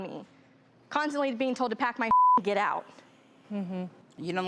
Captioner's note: beep